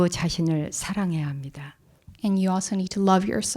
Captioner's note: speaking in Korean